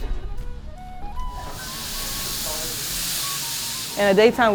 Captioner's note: sizzling